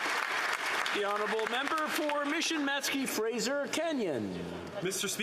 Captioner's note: applause